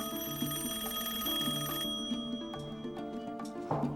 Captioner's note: rings